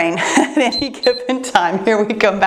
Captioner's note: timer beeps